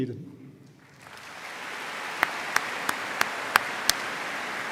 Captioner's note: audience applauding